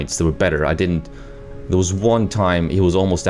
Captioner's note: none